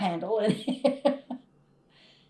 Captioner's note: laughs